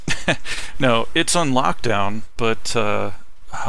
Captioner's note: laughing